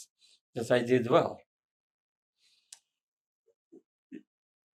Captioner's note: pauses 6 seconds